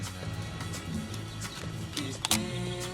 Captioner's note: tearing Sound